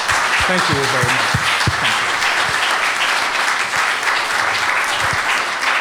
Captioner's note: applause